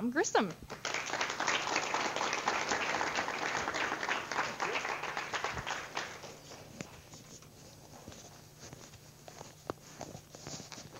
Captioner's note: audience applause